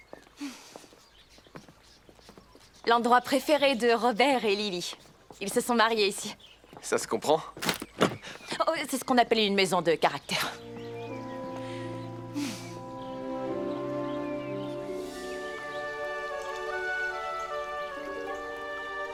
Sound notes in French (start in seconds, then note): 7.5 craquements de bois; 10.4 gazouillis d'oiseaux; 15.0 ruissellement d'eau